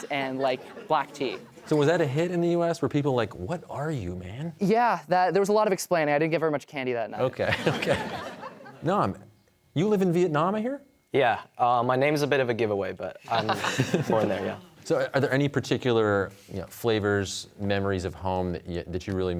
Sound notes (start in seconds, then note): 7.4 chuckling; 13.3 laughter